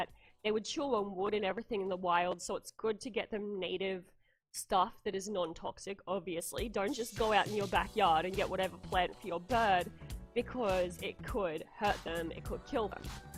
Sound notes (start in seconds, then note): none